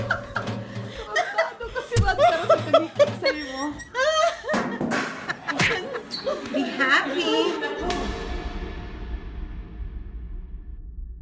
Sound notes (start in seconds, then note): 0.0 laughing